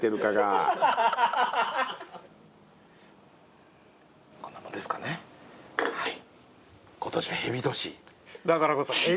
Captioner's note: laughs